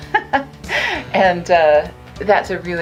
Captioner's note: light laughter